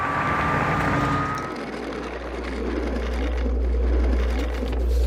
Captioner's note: cars driving; cart rolling; paper rustling